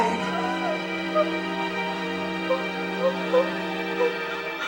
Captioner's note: whimpers